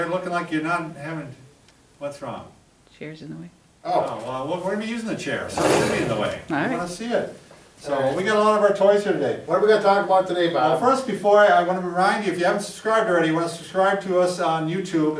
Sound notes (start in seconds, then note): 5.4 chair scraping